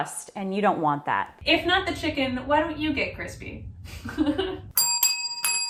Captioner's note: chuckles; bells dinging